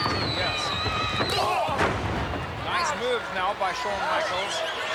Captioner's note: elbow thudding